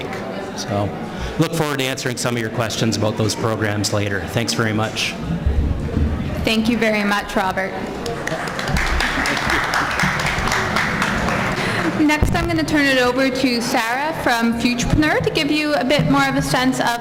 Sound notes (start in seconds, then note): 8.1 applause